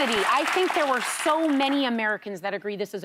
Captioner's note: applause